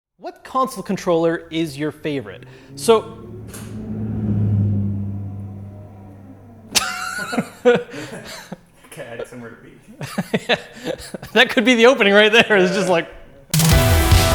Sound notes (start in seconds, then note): 5.0 motor noises; 6.7 chuckles; 13.5 upbeat music